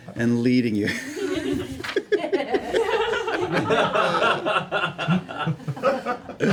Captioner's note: laughter